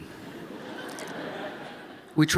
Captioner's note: laughter